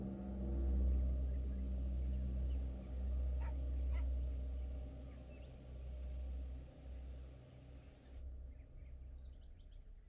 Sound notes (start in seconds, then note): none